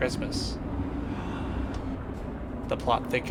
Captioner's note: gasp